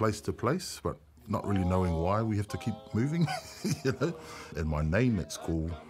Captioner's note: chuckles